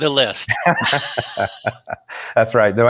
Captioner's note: both laughing